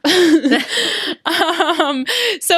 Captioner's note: laughs